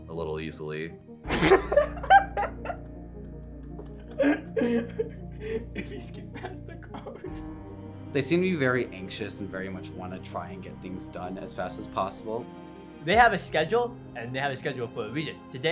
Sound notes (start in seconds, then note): 1.2 both laughing; 5.4 laughing, chattering